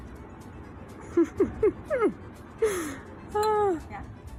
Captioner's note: laughing